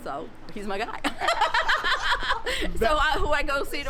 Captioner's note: laughs